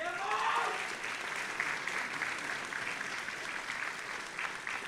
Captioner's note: audience applauding